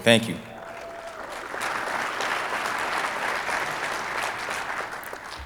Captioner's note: audience applauding